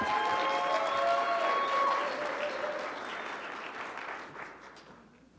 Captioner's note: audience clapping and cheering